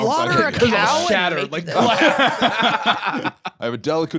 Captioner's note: both laughing